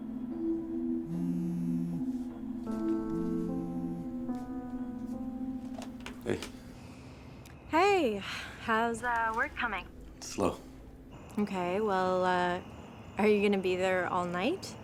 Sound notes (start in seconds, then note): 1.0 phone vibrating